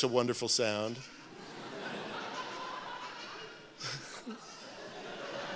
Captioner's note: laughter